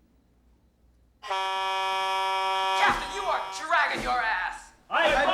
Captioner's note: blaring